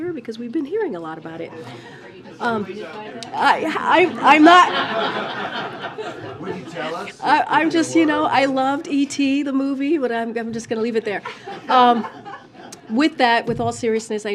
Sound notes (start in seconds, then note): 4.1 laughter; 11.2 laughter